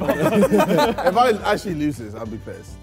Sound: Sidemen laugh

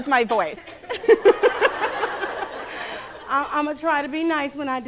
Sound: laughing

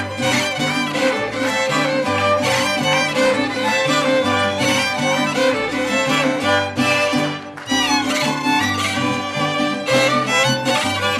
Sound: mariachi music playing; clapping

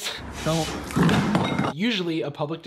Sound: crash of bowl on floor

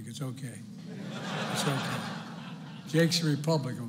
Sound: laughter

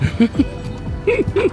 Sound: laughter

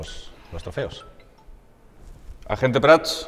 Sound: phone rings

